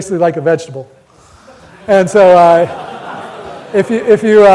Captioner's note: audience laughter